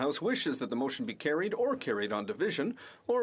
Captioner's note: speaking French